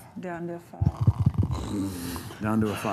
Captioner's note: snoring